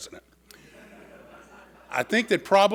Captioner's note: audience laughing